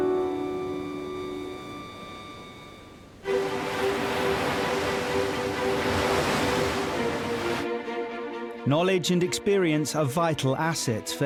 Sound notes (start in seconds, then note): 2.6 waves crashing; 3.2 uplifting orchestral music